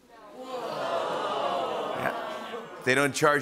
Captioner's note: whoas